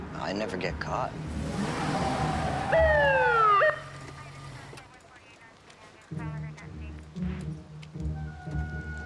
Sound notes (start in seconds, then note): 1.6 siren blares; 4.6 police radio chatter